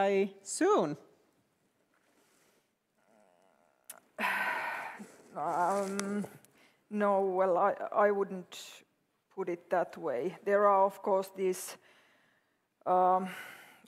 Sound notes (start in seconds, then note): 3.0 sighs